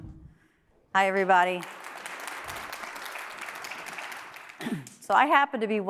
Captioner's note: audience applauds